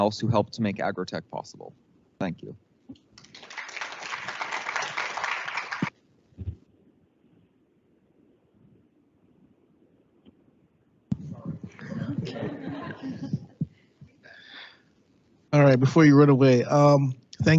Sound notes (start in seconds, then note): 3.1 audience clapping; 11.3 group chattering